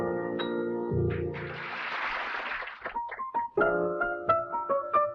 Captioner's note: audience applauding; bright jazzy music